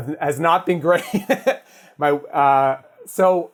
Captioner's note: laughs